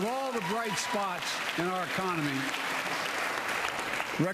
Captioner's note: applause